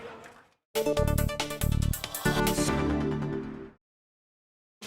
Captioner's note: applause